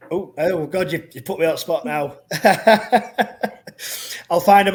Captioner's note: laughs